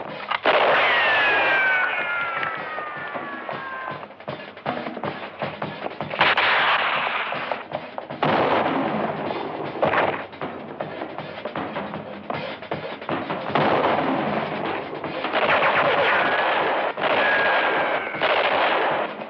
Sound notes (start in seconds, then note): 0.1 bullets whistling; 0.3 gunshots; 6.0 gunshots; 8.1 gunshot; 13.4 gunshot; 15.2 gunshots